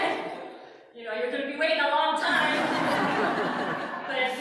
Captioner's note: laughter